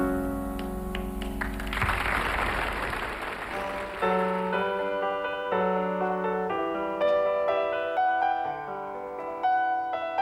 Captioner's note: applause